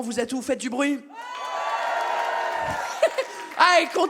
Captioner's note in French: le public s'exclame et applaudissent